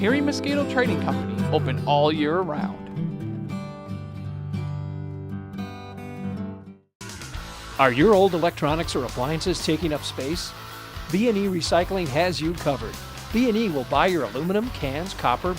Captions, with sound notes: Hairy Mosquito Trading Company, open all year round. (upbeat rock music) - [Voiceover] Are your old electronics or appliances taking up space? B and E Recycling has you covered. B and E will buy your aluminum, cans, copper,